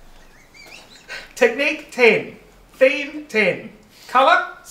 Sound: wheezing

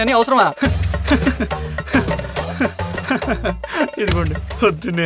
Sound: chuckles

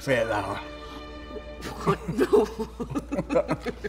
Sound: laughing

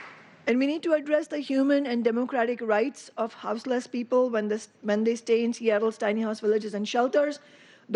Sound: applause

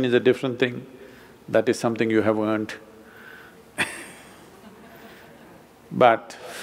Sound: laughter

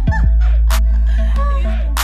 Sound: laughing

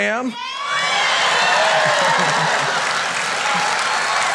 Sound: applause

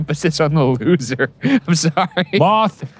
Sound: laughing

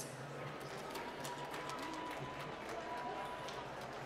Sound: applause

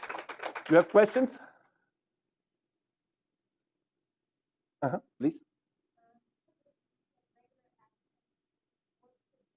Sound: applause

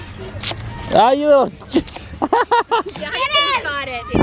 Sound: laughing

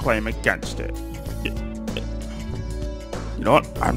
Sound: sigh

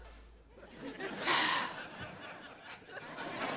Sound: sighing

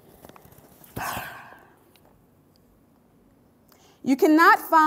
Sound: narrator sighs

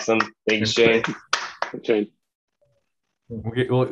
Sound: applause

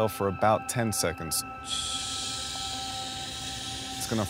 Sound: exhales

